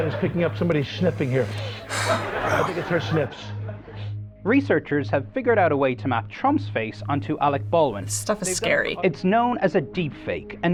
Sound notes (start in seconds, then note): 0.3 sighs